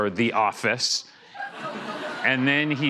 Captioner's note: laughter